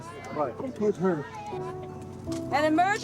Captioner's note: people talking in background